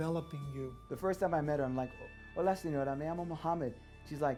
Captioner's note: speaking Spanish